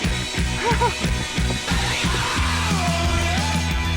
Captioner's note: chuckles